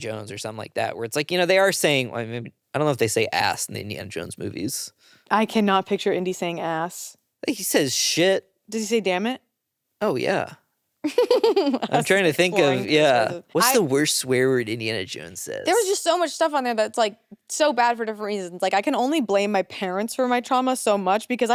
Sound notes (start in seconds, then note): 11.0 chuckles